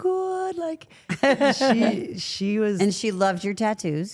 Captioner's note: Stephanie laughing